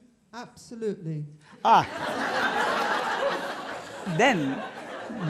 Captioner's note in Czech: smích